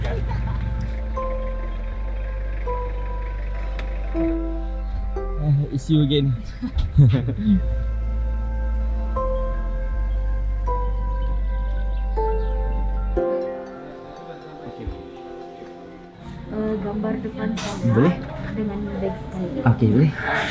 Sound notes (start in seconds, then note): 0.1 background music; 6.3 laugh; 7.8 background music